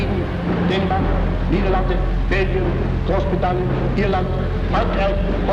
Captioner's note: speaking in a foreign language